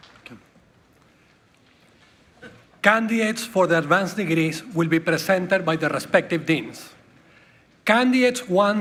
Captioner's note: applause